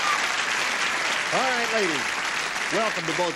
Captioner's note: cheering